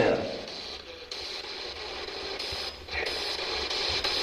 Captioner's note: static buzzing